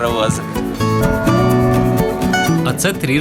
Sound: bell of bells

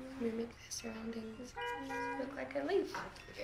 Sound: horn honks

